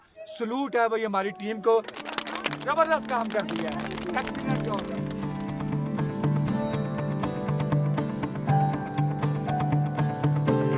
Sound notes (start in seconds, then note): 1.8 clapping